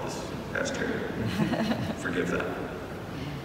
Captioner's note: audience laughing